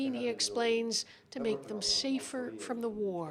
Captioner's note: speaking Foreign Language